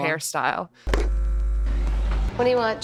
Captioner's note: VCR buzzing